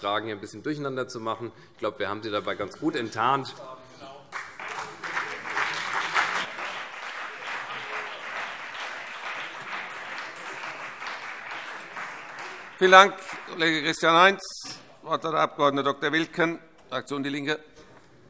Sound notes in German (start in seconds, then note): 4.3 Beifall CDU und BÜNDNIS 90/DIE GRÜNEN